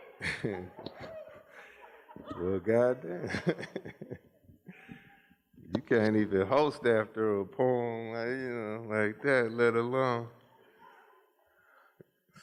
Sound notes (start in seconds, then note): 0.0 laughs